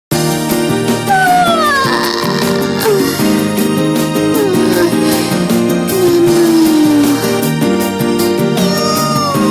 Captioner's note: yawning